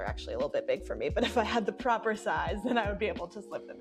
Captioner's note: chuckling